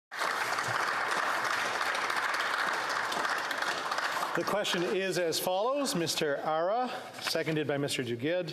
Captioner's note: applause